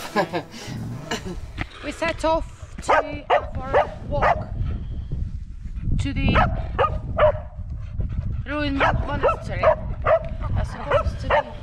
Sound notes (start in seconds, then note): 0.0 laughs; 1.6 bark; 6.3 bark; 6.3 bark bark